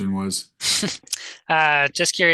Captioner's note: host chuckles